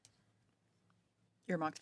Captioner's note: speaking French